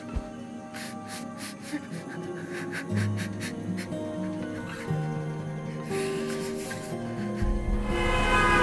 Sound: Jessy sobbing

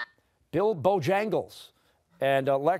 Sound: buzzer sounding

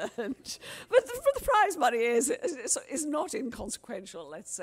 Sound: laughter

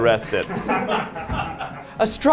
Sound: all laugh

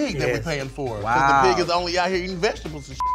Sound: beep

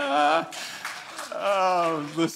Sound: laughs

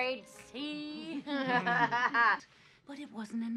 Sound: laughing

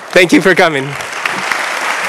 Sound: applause

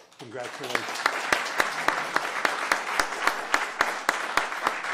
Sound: applause

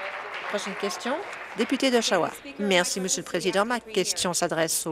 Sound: applause

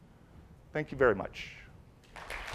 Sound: applause

